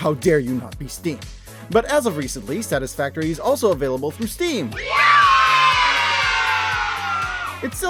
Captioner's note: children cheering